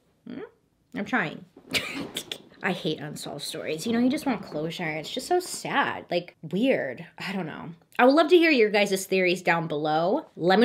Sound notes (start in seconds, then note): 1.7 chuckles